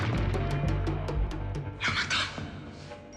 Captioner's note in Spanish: Disparo